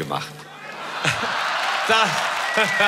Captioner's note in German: Jubel